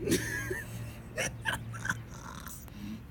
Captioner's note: increasing laughter